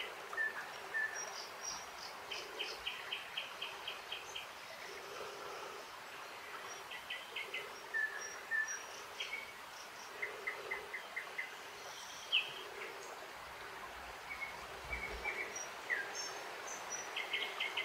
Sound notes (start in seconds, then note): 4.1 birds chirping; 4.1 water splashing